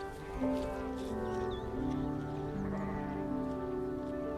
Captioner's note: sound of sheep